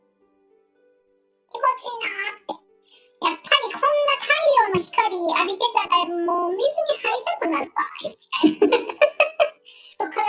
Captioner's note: laughs